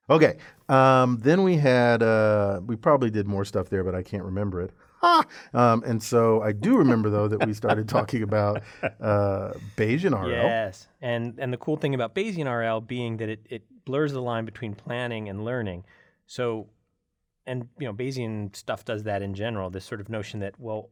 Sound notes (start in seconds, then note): 6.6 laugh